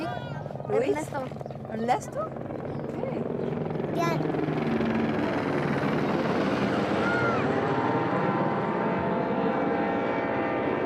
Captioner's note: speaking foreign language